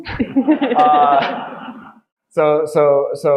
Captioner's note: audience laughing